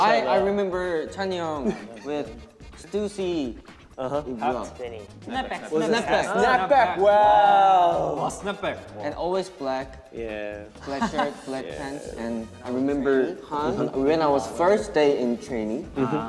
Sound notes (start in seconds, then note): 2.8 speaking in Korean